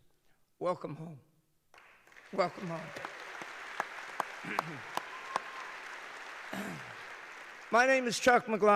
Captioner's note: applause